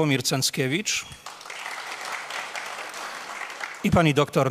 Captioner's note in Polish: oklaski